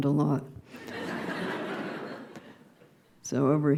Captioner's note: laughter